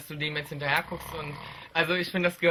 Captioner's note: snores